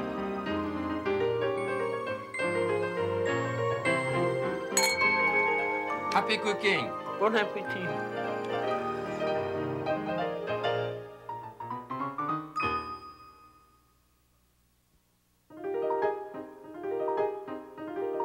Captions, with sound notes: (glass clink) - Happy Cooking! - Bon Apetite! (light piano music)